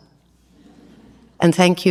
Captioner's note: audience laughs